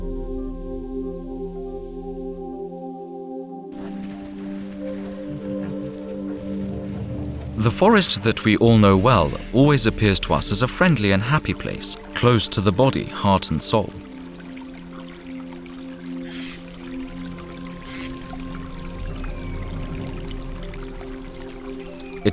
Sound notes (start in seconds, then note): 3.7 szelest rozgrzebywanych liści, ciche pomrukiwania niedźwiedzia